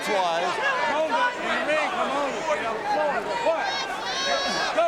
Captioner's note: audience cheering